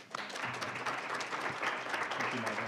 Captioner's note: applause